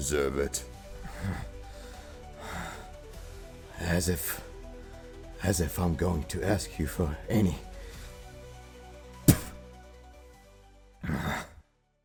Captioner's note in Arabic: يبصق دماؤه